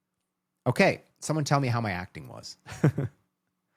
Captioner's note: laughs